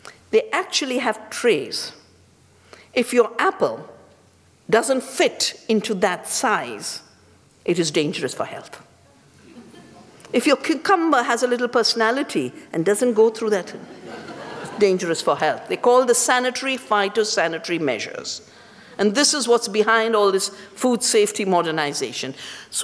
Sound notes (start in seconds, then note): 9.4 laughter